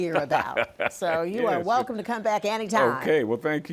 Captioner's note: laughs